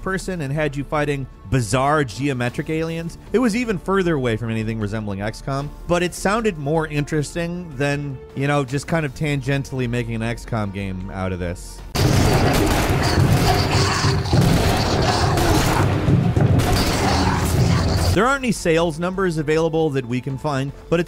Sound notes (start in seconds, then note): 11.9 explosions blasting; 12.0 monsters growling